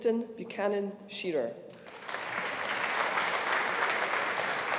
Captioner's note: audience applauding